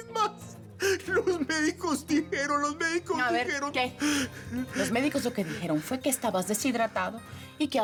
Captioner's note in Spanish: Solloza